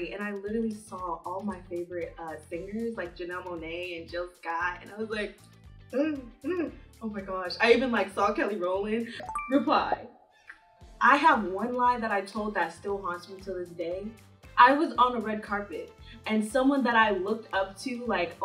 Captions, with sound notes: and I literally saw all my favorite singers, like Janelle Monae and Jill Scott and I was like, (gasping) "Oh my gosh". I even like saw Kelly Rowland. (notification chiming) Reply. I have one lie that I told that still haunts me to this day. I was on a red carpet and someone that I looked up to like,